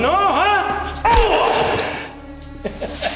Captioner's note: Brown groaning; kick thudding; Siegmund laughing